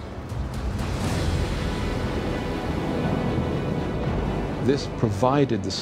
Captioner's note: explosion